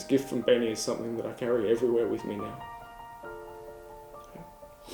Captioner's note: sniffs